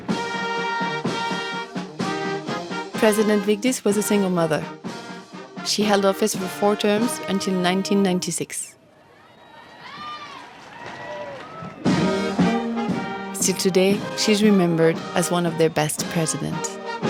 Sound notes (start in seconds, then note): 8.8 people cheering